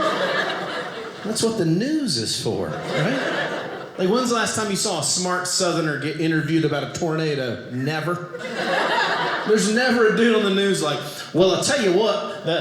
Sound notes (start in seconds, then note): 2.4 audience laughing; 8.2 audience laughing